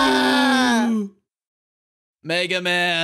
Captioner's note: both scream